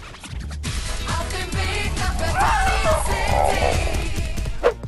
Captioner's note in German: Knurrende Laute